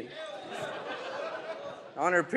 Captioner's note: audience laughs